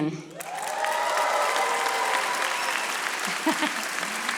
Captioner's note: audience applauding